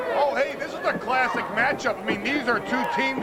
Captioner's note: crowd chatter